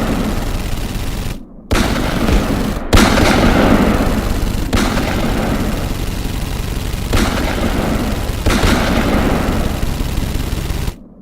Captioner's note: gun fire blasting